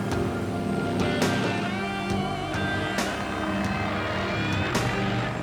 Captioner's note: motorcycle engine humming